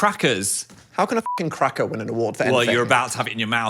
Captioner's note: beep